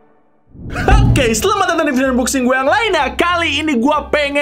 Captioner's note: thud